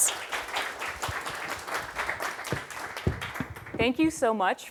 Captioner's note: applause